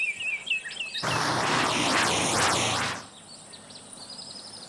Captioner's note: engine rumbling